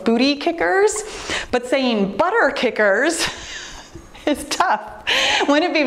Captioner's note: laughs